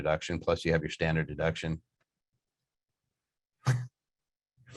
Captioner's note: chuckles